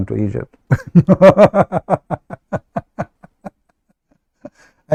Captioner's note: Ketawa